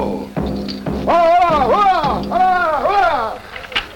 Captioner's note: speaking Foreign Language